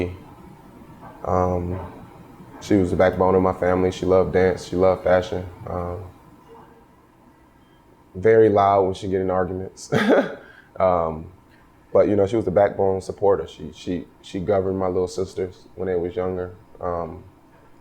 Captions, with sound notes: She was the backbone of my family, she loved dance, she loved fashion. Very loud when she get in arguments, (laughs) but she was the backbone, support. She governed my little sisters when they was younger,